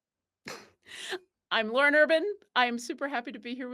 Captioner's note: chuckles